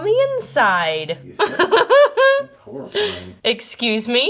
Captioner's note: laughing